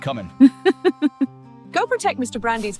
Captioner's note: Autumn laughs